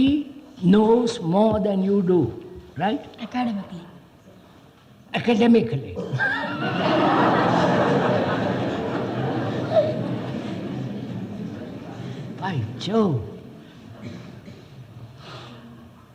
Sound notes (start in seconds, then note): 6.1 laughs; 8.8 laughter